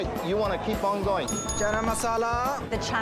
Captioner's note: bell dings